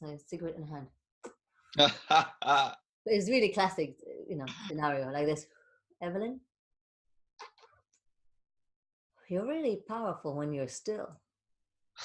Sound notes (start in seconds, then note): 1.8 laughing